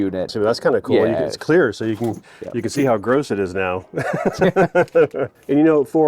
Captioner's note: laughs